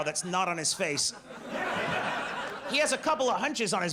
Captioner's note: audience laughs